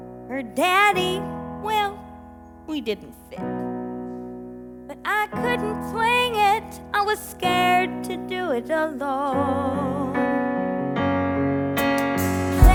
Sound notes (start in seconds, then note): none